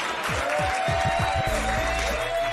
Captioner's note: cheers and applause